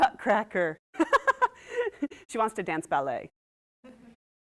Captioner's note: laughs